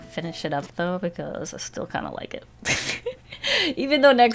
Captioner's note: laughs